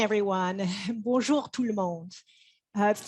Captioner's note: speaks French